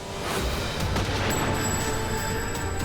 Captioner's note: dramatic music; guns firing; dramatic music